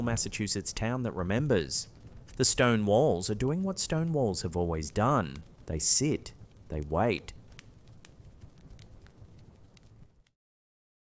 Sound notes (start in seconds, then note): 8.6 fire crackling